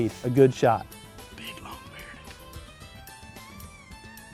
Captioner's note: whispering